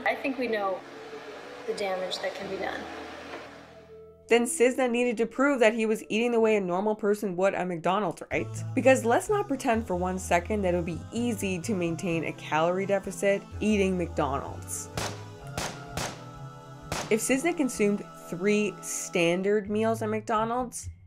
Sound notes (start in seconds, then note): 15.2 impacts pound